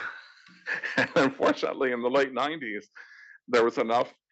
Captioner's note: laugh